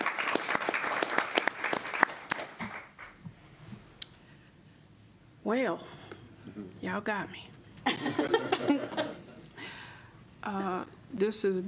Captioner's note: applause